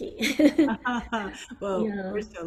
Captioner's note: laughing